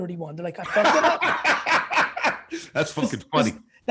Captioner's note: laughing